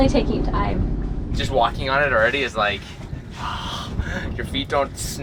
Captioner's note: sighs